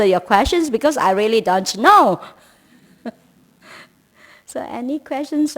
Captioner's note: laughs